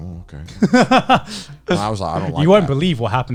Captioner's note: laughing